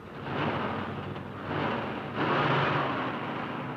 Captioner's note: engine revving